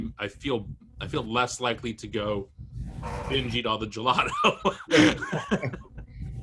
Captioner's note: laughs